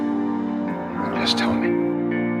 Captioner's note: voiceover